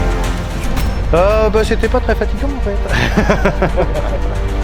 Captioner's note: laugh